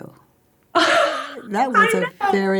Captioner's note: laughs